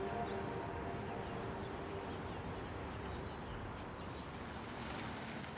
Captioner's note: birds chirping